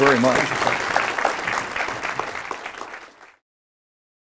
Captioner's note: applause